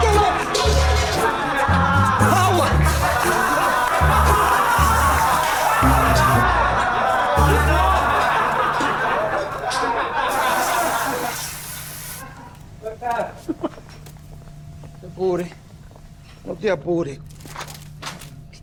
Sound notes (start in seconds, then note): 5.5 alarm indicating rest time; 7.5 people laughs